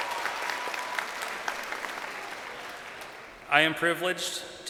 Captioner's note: crowd cheering